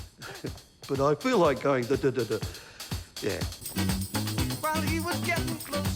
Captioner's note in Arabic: يقلد إيقاعات الطبل